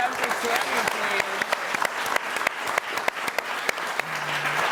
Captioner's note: audience applauding